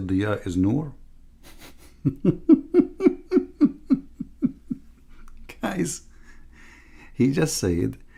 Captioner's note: Ketawa